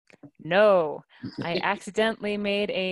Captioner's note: laughing